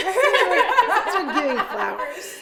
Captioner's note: all laughing